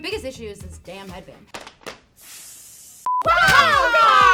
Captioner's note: Globo Gym Cobras hiss